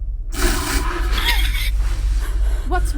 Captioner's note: creature snarling; woman gasps